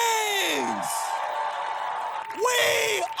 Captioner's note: crowd cheering and applauding